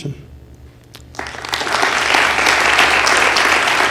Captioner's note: applause